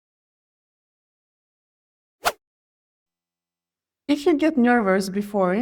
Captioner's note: silence